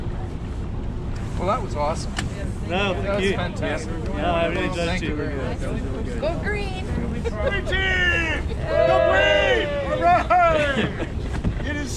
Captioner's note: laughter from zodiac